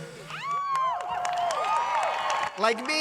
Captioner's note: cheers and applause